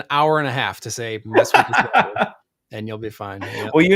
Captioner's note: laughs